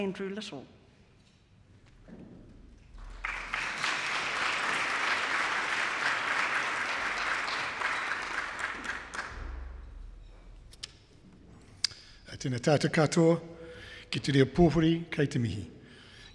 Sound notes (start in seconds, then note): 2.9 clapping